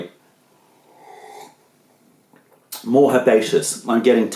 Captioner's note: sips tea